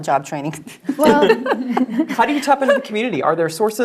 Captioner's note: laugh